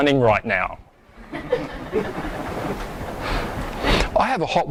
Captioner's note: audience laughs